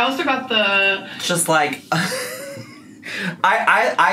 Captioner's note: laughs